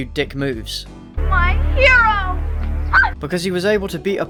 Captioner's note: horny scream